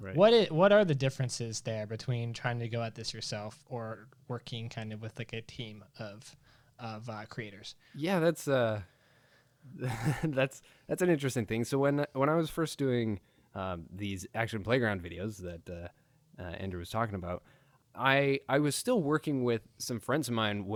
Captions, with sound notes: What are the differences there between trying to go at this yourself or working with a team of creators? - Yeah that's a (chuckles) that's an interesting thing. So when I was first doing these action playground videos that Andrew was talking about. I was still working with some friends of mine